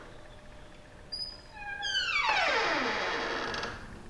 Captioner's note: door Creaks